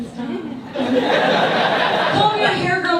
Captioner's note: audience laughs